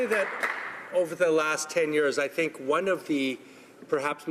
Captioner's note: some Applause